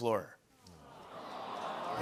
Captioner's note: audience awws